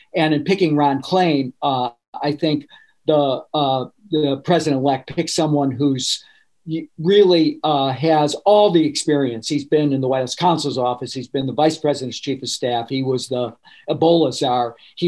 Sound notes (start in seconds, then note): none